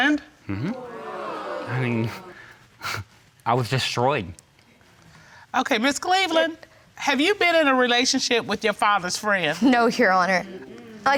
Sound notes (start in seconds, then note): 0.5 audience gasps; 2.5 scoffs